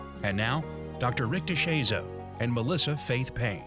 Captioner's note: voiceover